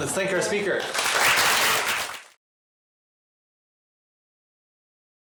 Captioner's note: applause